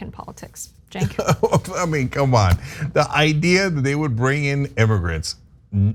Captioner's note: laugh